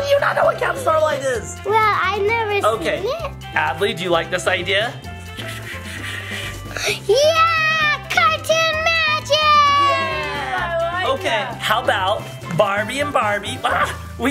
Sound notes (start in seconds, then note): 5.8 Barbie Malibu whispering to Adley